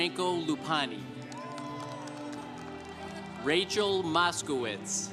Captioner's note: congregation applauding